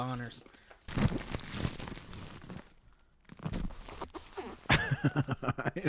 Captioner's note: ridiculous package noises